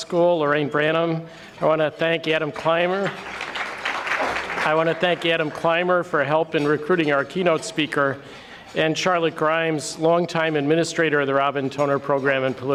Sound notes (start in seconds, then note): 3.0 audience clapping